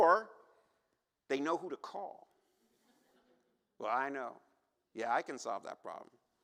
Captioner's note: laughter